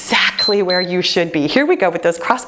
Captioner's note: timer beeps